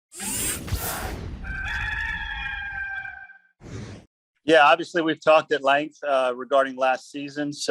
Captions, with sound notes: (logo whirring) (rooster crowing) - Yeah, obviously, we've talked at length, regarding last season,